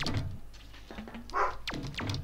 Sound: Tumnus barks in the background

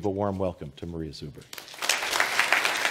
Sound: applause

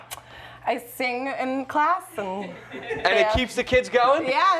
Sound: laughter

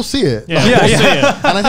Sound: laugh

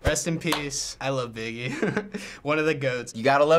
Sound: chuckles

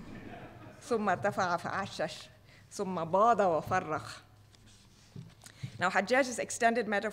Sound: speaking foreign language

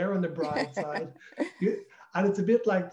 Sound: laughs

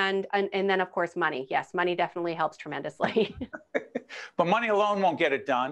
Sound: laughing

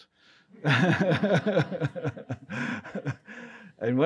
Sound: laughs

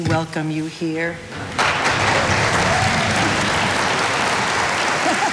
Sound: audience applauding

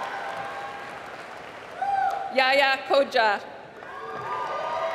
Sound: applause

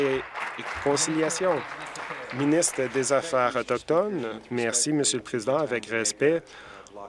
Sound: applause

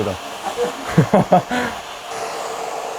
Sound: hahaha

